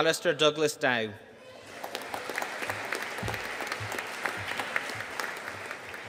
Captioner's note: audience applauding